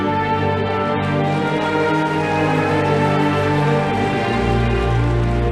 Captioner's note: audience applauding